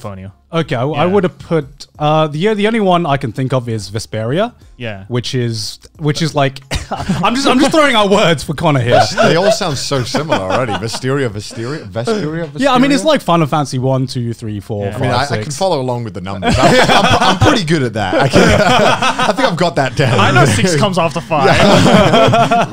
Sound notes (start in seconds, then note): 18.1 laughing